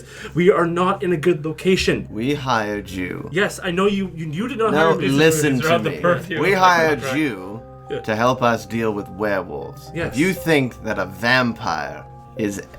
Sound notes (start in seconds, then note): 0.0 beginning to panic and speak quickly; 5.0 forcefully, speaking over Reese; 7.1 forcefully, but calmly